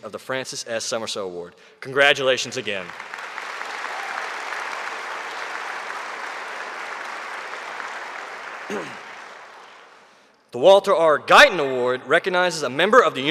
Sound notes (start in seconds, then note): 2.8 audience cheering